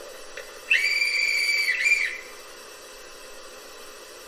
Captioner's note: conductor whistle